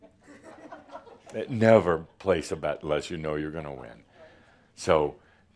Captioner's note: some giggles